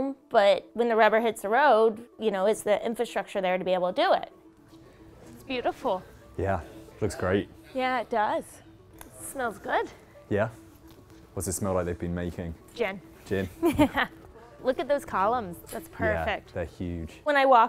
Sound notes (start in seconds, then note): 13.5 laughing